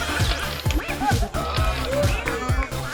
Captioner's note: BB-8 sounds